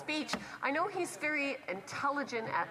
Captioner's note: speaking French